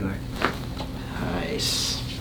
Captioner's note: cracks